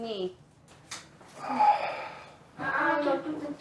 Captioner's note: sighs